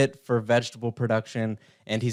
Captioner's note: none